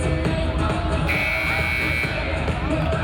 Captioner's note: buzzer buzzing